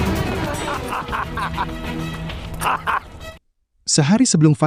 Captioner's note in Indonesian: tertawa